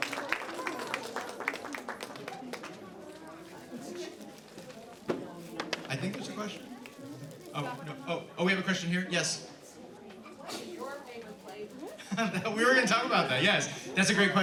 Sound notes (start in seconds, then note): 2.9 light applause